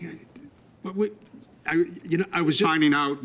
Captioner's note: stammering